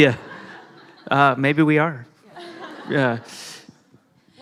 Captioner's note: laughter